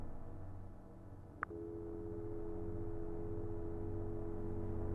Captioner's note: dial tone buzzing; menacing electronic music